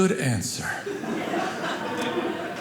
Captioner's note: audience laughing